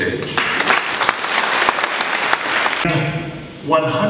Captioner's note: audience applauding